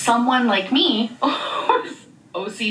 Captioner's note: laughs